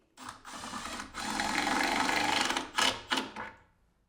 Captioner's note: drill whirring